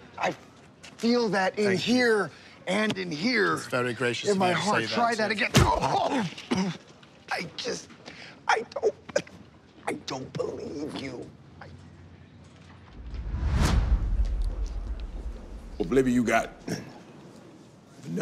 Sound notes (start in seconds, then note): 5.6 groans, coughs; 7.6 choking